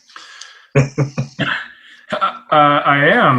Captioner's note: laughs